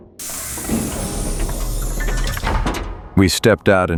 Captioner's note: door opening